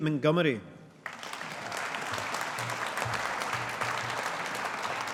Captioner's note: audience applauding